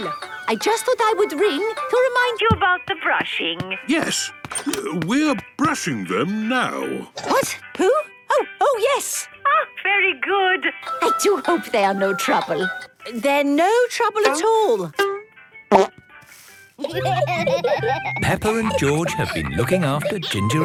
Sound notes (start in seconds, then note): 16.8 laughter